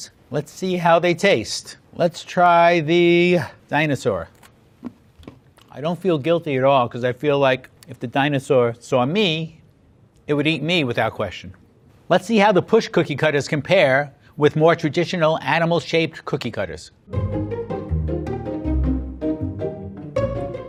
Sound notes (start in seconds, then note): 5.1 cookie crumbling softly; 17.0 pensive string music